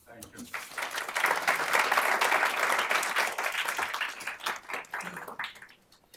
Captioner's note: applause